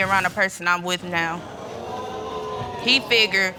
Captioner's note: audience exclaiming